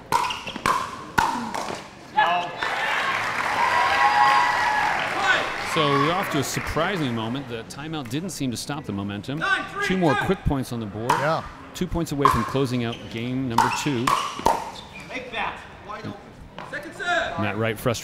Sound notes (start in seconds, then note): 0.0 ball bouncing; 2.2 audience cheering; 13.5 ball bouncing